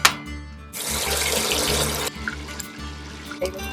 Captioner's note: bacon sizzling